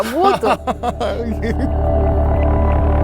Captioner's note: laugh